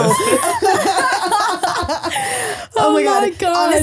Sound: both laughing

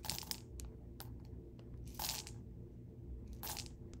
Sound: beans rattle

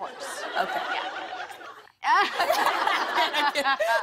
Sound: laughter

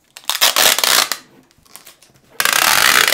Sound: tape unpeeling

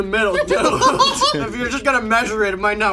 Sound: laughs

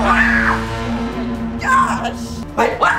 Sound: screams

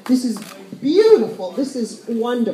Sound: Spanish

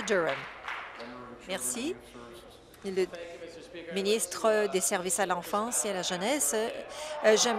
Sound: applause

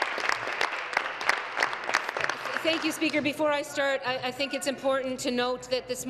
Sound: applause

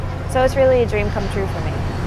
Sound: ocean waves

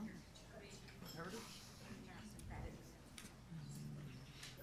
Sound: group chatter

